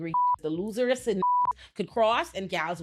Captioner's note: beep